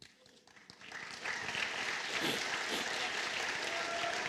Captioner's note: applause